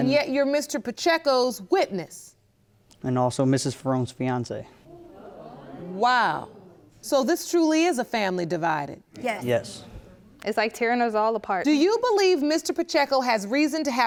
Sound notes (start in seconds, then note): 4.9 audience exclaiming